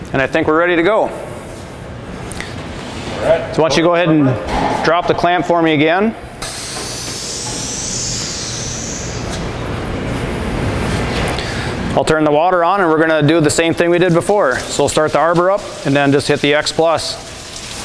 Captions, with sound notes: And I think we are ready to go. So once you go ahead and drop the clam for me again. [sound of the machine] I will turn the water on, and we are going to do the same thing we did before. So we will start the arbor up, and then just hit the X Plus. [sound of machine]